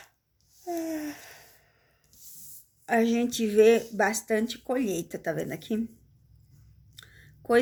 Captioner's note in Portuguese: suspirando